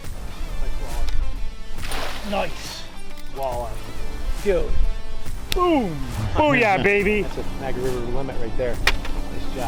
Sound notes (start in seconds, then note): 1.8 fish splashing